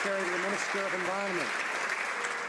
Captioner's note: some Applause